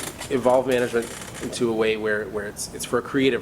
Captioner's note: chair squeaks